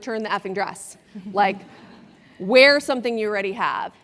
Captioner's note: laugh